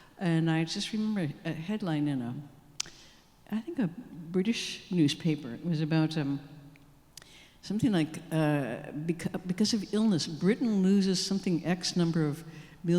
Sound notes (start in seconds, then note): none